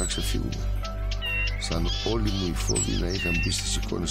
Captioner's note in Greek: πουλιά που κρώζουν